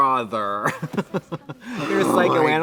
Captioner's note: Katya laughs